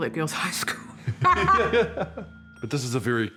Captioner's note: both laugh